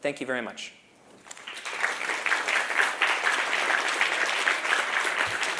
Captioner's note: applause